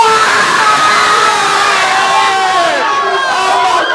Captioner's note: cheering